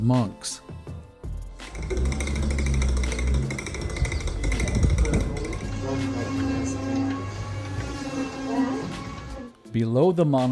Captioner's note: mechanical sounds